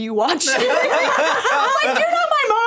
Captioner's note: all laughing